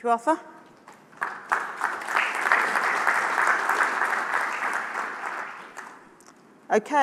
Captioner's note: applause